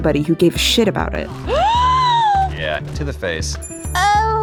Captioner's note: Hana Hayes gasps